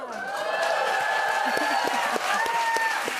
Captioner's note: cheers and applause